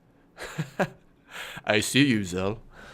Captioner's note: laughs